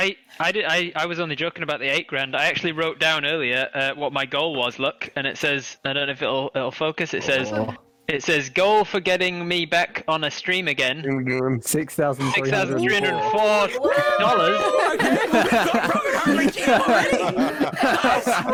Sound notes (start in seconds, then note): 13.8 all astonished wows